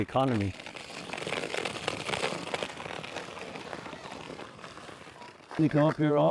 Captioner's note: skate blades carving ice